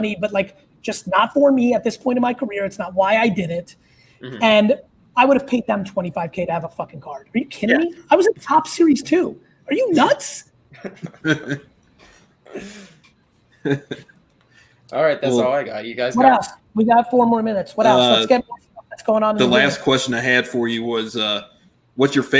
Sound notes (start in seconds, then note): 10.9 chuckles; 18.6 fumbles